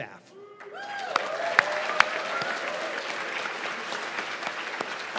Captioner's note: cheers and applause